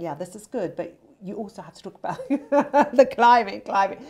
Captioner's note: laughing